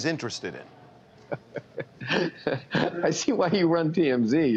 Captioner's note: laughter